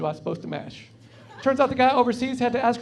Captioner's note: laughing